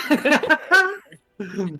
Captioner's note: laughter